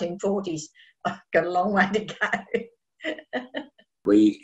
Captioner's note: laughs